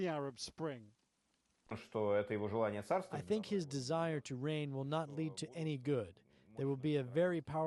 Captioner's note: through translator